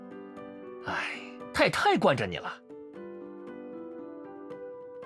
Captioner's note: sighs